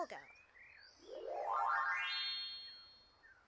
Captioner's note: magical sound effect